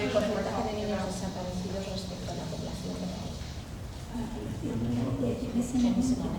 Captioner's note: speaking in foreign language